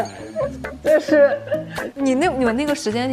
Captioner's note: laughs